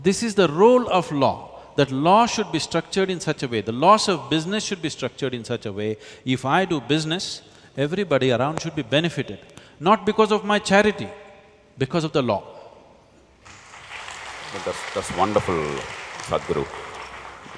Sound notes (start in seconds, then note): 13.4 applause